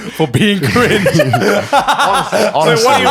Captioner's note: all laughing